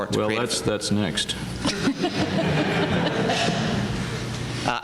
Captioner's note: laughter